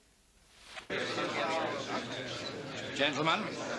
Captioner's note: general chatter